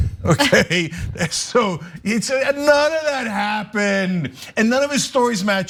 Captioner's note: laugh